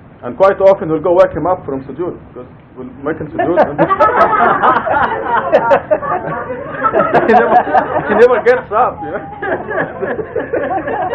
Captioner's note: Gülüşmeler